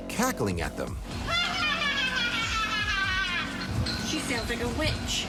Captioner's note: cackling